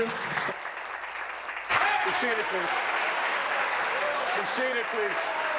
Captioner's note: applause